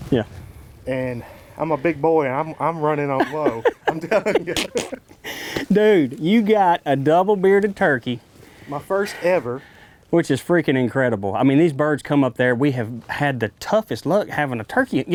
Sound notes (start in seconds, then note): 4.8 laughing